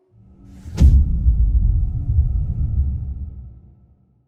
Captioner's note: dramatic sound